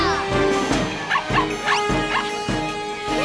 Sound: barking; laughing

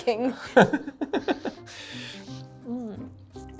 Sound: laughing

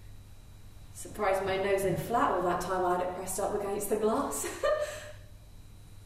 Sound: giggles

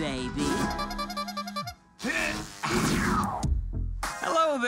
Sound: horn squeaks

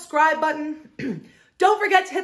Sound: clears throat

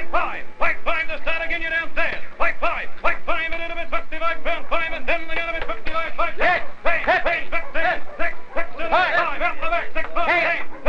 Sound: auctioneering

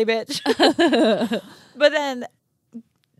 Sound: both laughing

